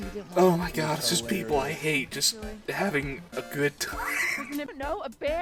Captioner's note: wheezing